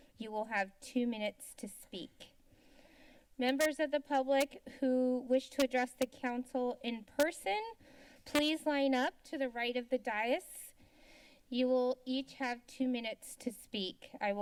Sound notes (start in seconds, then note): 10.6 inhales